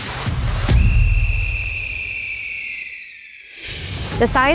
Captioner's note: whistle sound